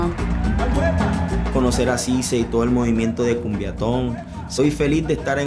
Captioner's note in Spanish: en español